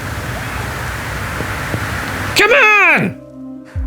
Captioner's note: shouting